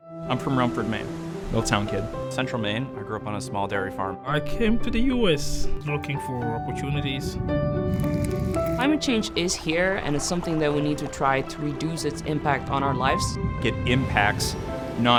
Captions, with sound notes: I'm from Rumford, Maine. Mill town kid. Central Maine, I grew up on a small dairy farm. I came to the US looking for opportunities. (whooshing air) (collapsing ice crystals) Climate change is here. And it's something that we need to try to reduce its impact on our lives. It impacts not